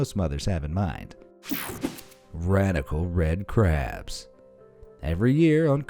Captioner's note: air whooshing